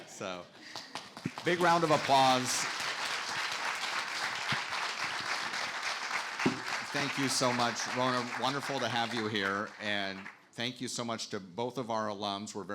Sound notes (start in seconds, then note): 2.2 audience applauding